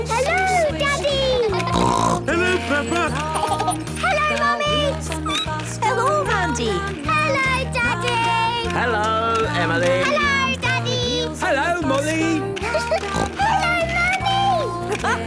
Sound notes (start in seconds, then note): 0.8 snorting; 3.2 laughter; 5.3 squeaking; 12.9 giggling and snorting